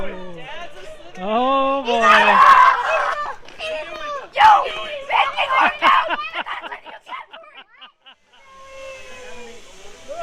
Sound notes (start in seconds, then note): 4.4 jumping & laughing